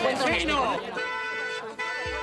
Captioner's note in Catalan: Clàxon